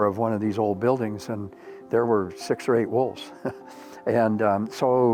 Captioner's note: chuckles